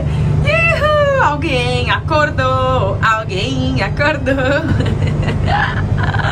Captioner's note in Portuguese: cantarolando; risos